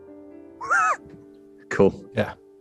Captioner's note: sniggering